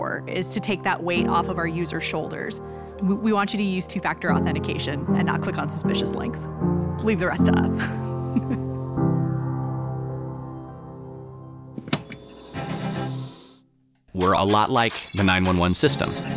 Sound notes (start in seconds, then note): 8.3 laughs; 12.5 anthemic music